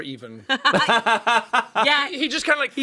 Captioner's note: laughs